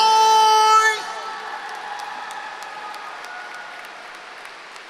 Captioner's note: applause